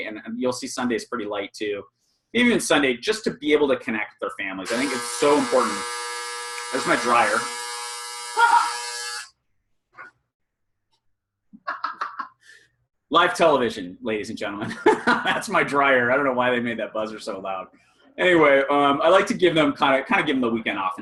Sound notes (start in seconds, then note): 11.6 laughing; 14.8 laughing